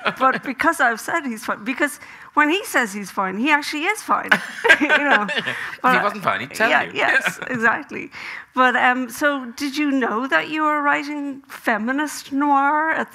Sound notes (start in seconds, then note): 4.3 Graham laughing